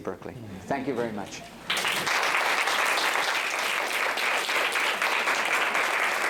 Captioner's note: applause